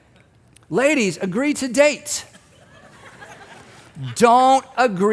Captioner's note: audience laughing